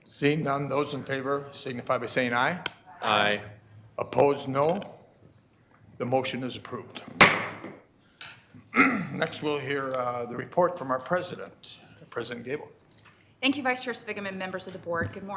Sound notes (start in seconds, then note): 7.4 gavel pounding